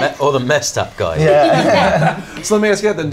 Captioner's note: laughter